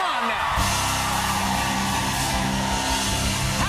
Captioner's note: cheers and applause